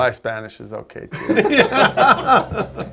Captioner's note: all laughing